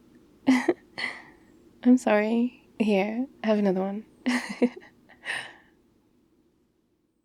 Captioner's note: laughs